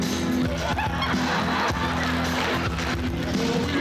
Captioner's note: laughter